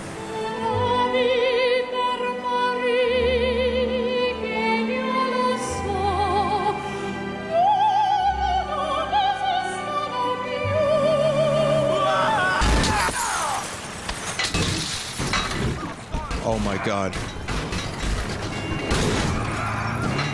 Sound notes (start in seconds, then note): 11.0 music fades out, Niko screams; 14.3 smashing